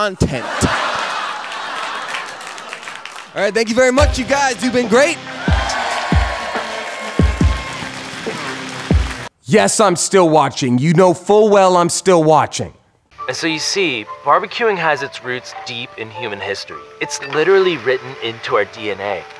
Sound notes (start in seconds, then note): 0.8 𝘢𝘱𝘱𝘭𝘢𝘶𝘴𝘦; 5.4 𝘢𝘱𝘱𝘭𝘢𝘶𝘴𝘦